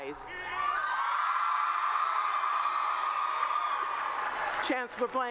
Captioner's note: cheering and Applause